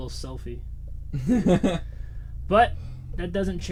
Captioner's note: Thomas laughs; laughs